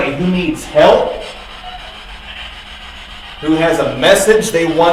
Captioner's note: static buzzing